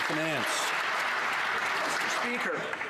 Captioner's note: some Applause